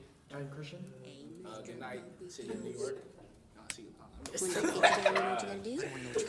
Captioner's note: laughs